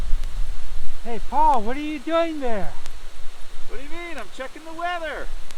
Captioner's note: wind blowing